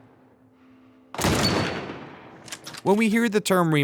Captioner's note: gun cocking; gun bangs